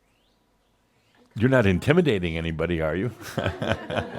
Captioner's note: some chuckles